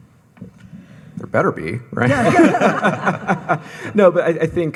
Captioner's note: all laugh